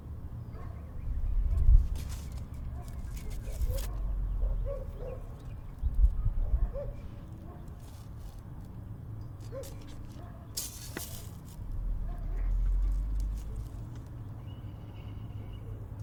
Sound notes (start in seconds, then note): 0.5 dog barking faintly; 9.3 pictures rustling